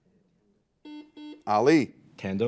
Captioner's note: buzzer